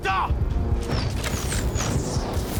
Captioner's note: speaking in native language